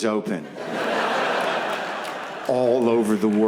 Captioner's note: audience laughs